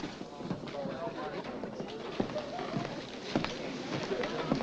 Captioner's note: crowd chattering